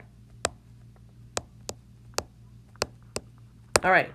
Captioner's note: tapping